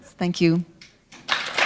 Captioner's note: applause